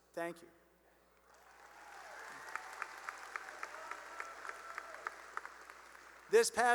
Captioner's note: cheering and applause